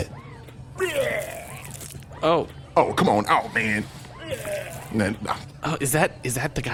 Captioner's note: vomiting sounds